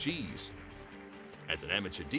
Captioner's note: crowd applauding